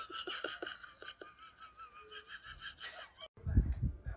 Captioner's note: continues to laugh